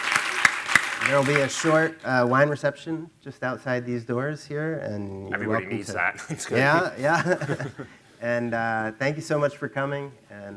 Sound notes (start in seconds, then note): 8.2 chuckling